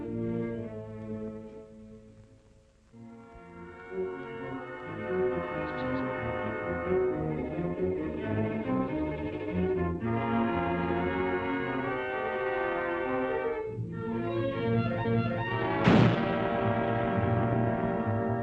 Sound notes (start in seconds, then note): 3.8 disquieting music; 15.7 gunshot